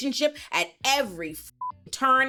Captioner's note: beep